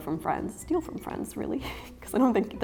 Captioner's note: chuckles